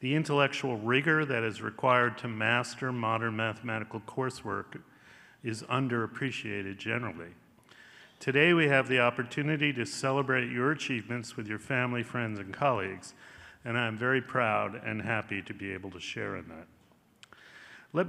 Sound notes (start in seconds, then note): none